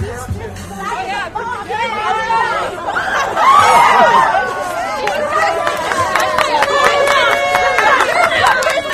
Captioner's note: audience cheers and claps